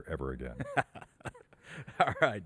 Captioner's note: laughs